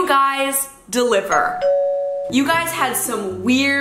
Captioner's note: doorbell ringing